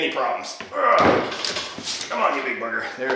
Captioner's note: grunts